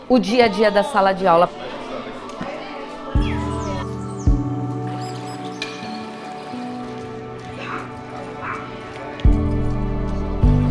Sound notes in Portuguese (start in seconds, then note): 1.9 vozes ao fundo; 5.1 trilha sonora melancólica